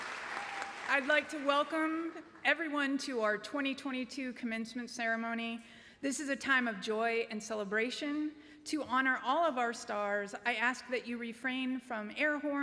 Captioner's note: cheering and applause